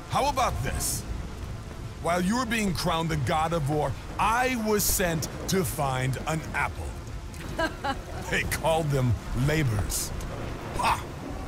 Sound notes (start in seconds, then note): 7.4 laughs